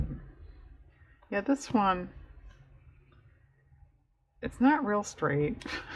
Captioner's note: laughs